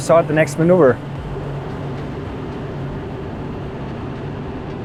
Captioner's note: engine droning